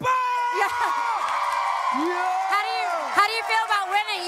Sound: cheering

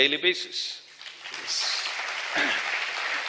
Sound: applause

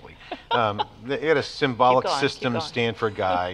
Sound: laughs

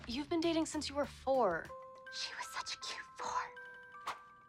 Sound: whispers

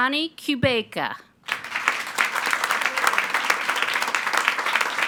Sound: attendees applauding

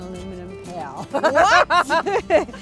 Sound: laughs

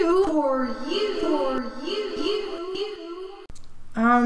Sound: echo

